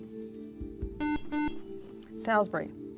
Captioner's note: buzzer